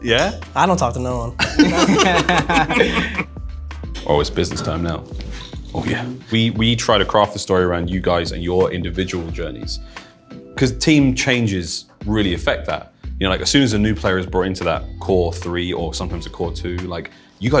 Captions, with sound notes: -Yeah? -I don't talk to no one. [laughter] Oh, it's business time now. Oh, yeah! We try to craft the story around you guys and your individual journeys, 'cause team changes really affect that. As soon as a new player is brought into that core three or sometimes a core two,